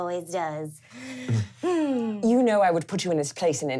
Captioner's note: laughing